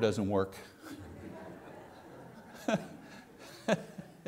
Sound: congregation laughing; laughing

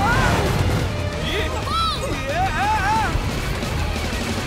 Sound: yelling

